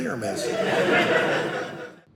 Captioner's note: audience laughing